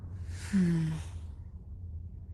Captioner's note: worried sigh